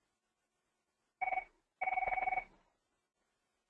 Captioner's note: phone ringing